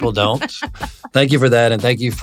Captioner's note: laughs